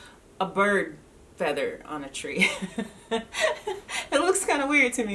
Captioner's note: laughs